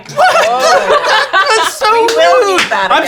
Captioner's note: laughing